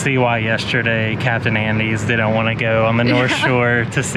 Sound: chuckles

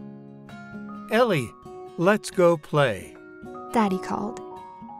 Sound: voiceover

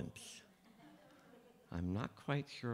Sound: laughter

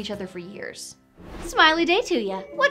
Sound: whoosh

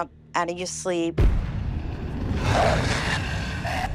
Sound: growling

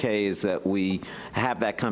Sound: none

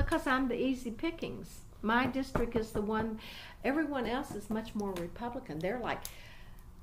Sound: resumes tapping table

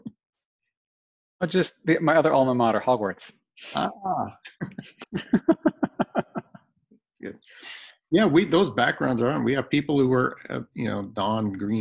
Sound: laughter

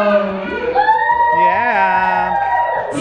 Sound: cheering

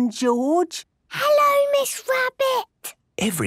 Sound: whispering

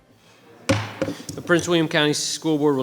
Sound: banging the table

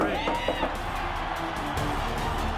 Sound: cheering

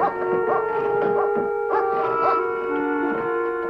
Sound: Shane whining

